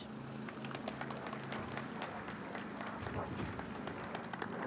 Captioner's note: audience claps